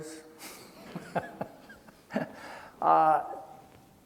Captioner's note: laughing